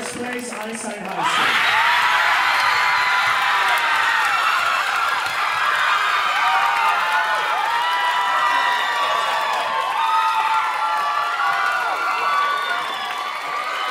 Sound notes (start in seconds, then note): 2.1 audience cheering and applauding